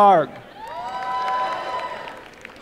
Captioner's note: applause